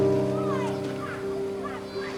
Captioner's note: gentle thoughtful music; water splashing